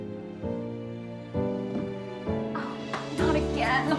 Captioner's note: sniffing